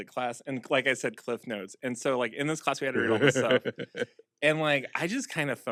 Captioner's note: chuckles